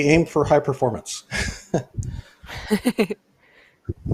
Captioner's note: laughs